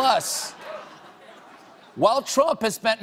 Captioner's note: laughter